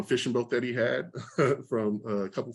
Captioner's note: chuckles